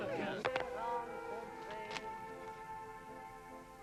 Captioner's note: click